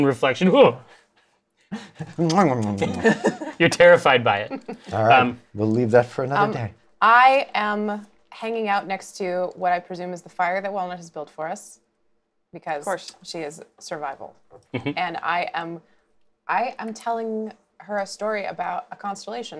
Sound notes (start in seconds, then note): 0.2 startled sound; 2.2 kissing sounds